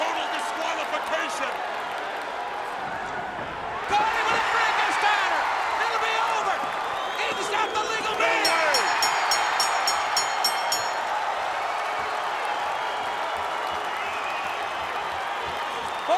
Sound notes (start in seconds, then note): 7.9 bell ringing; 10.2 crowd cheering